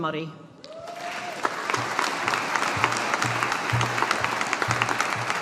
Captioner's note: audience applauding